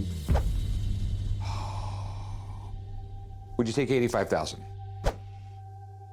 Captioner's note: sighs